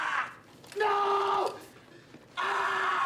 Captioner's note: screaming